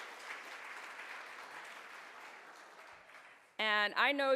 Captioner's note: audience claps